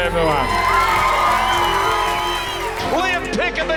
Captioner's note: whooping and cheering